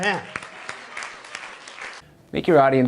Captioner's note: applause